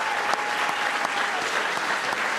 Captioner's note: applause